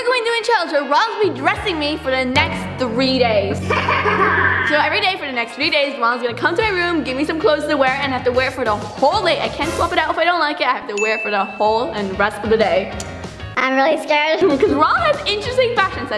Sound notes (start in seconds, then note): 3.5 maniacally laughing; 13.3 distorted voice